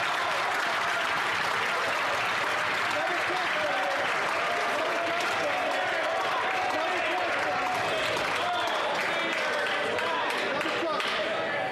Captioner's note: some Applause